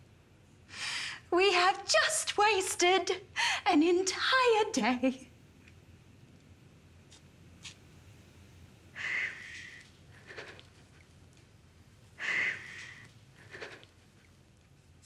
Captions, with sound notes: We have just wasted an entire day. (sobbing breath)